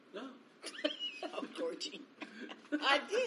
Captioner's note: laughs